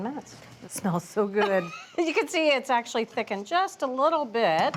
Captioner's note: laughs